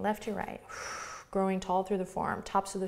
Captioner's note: exhales